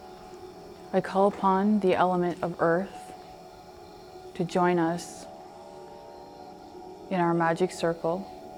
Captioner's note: none